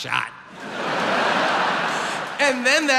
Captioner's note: audience laughs